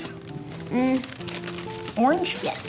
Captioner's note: paper rustling